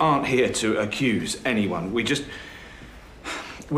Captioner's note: sighs